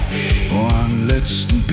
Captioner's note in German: bumm